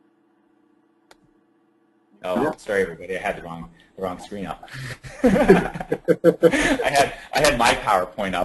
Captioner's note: laughing